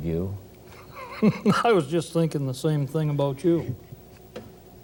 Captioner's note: laughing